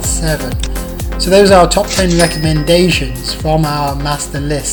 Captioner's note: dings